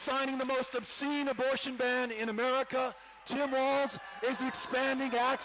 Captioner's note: cheering